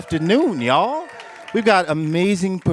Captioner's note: applause; cheers